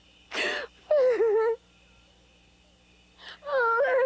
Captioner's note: Claudie crying